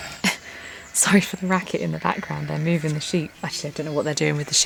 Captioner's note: sheep baaing